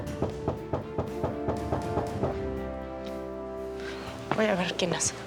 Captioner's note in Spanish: Toques en la puerta